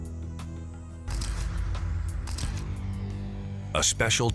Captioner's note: camera shutter clicks